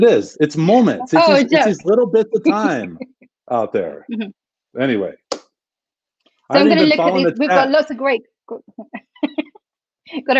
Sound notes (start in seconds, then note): 4.5 claps; 8.9 chuckles